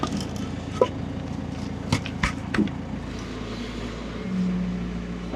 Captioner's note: telehandler whirring